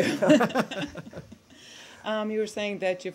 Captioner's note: laughter